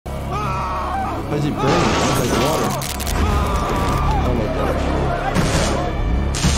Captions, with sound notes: (cartoon screaming) - Why's he burning inside the water? Oh my gosh.